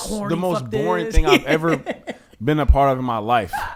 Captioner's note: laughs